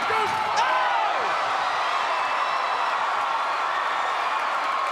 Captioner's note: crowd cheering